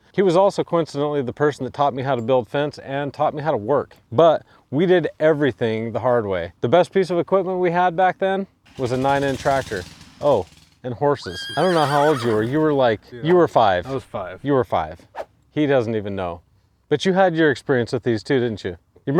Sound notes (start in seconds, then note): 11.1 horse neighing